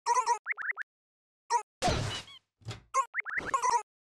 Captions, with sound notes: where am i I dunno wha- AUGH-- *SQUEAK* WHAT THE-- W-what's going on?! I DON'T FUCKING KNOW?!